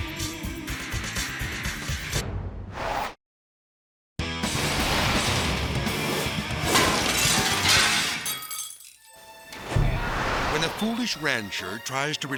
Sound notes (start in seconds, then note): 0.1 upbeat music; 4.2 logo whooshes; 4.2 upbeat music; 6.6 glass shatters